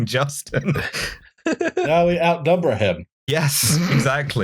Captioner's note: laughter